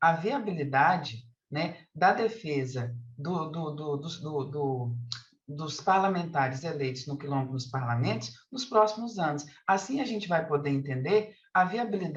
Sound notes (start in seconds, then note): 4.0 continues speaking in Portuguese